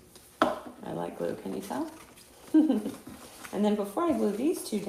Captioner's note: chuckling